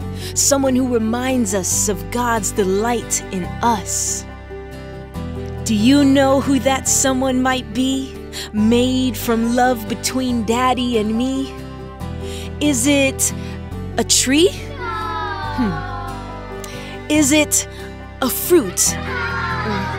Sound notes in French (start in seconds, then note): 14.8 négative amusée d'un public enfant